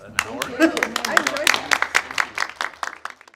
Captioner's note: audience applauds